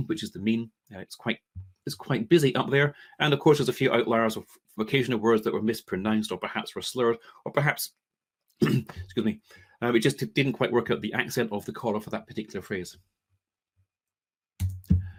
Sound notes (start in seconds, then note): 8.6 coughs